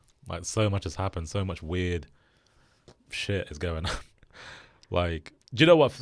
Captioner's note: chuckles